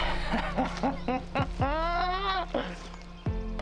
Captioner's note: laughing